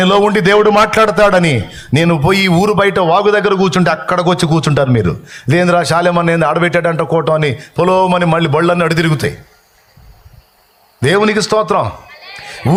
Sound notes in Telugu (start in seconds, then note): none